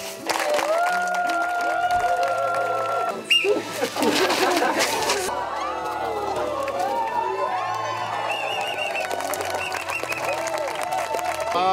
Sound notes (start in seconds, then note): 0.2 clapping and laughter; 3.2 sound of the whistle; 5.3 cheers and whistles